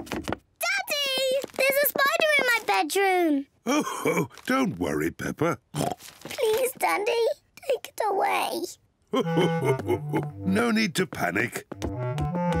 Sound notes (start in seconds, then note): 3.4 chuckles; 5.7 oinks; 9.1 chuckles